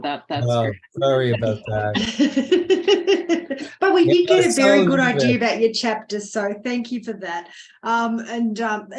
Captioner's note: laughing